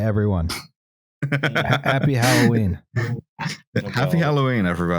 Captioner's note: chuckles